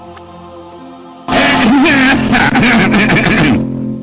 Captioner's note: bass boosted throat clearing